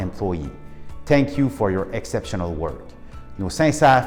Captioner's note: speaking French